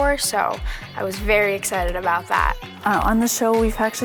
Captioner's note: none